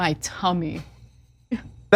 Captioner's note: laugh